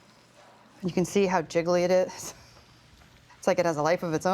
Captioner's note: chuckles